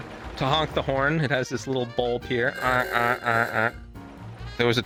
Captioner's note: car honks